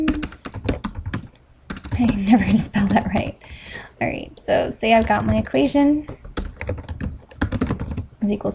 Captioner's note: chuckles